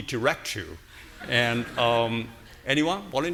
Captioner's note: audience laughing